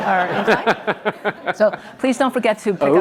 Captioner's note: audience laughs